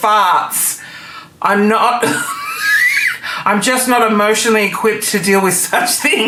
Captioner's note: laughing